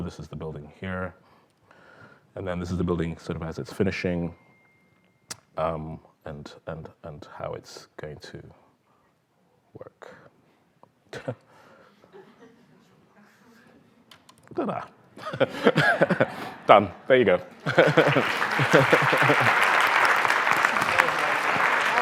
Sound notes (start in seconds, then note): 15.1 laughter; 17.6 laughs; 17.6 applause